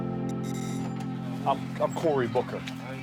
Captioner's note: doorbell rings